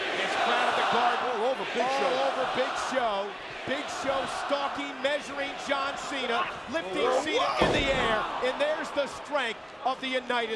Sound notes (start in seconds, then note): 7.6 body thudding